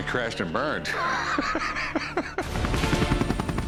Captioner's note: laughs